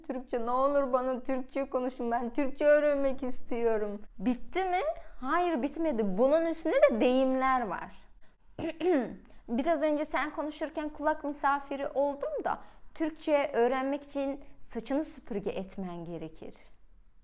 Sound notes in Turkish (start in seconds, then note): 8.6 boğazımı temizliyorum